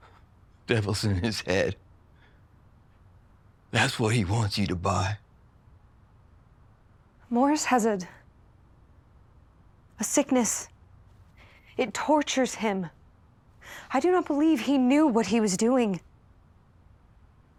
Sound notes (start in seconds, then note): none